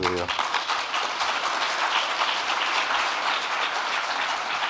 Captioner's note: audience clapping